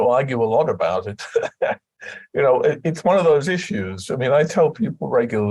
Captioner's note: laughter